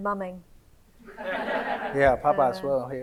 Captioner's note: audience laughs